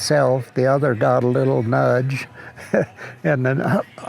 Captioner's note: chuckles